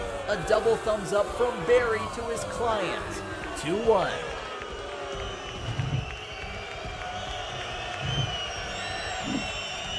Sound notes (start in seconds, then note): 0.0 audience boos; 4.4 audience boos; 5.5 dramatic music